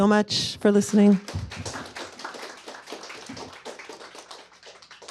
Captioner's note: applause